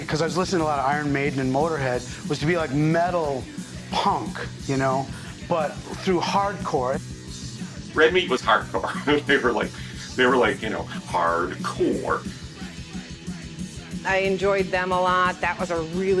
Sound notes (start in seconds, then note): 8.8 chuckles